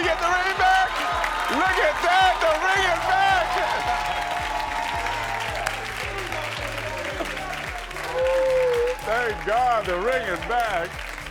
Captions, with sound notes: Did you get the ring back? Look at that! The ring is back! (audience applauds) Thank God, the ring is back.